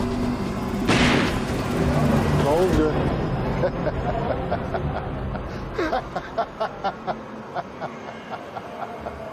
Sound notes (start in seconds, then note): 0.9 shots fired; 3.5 laughs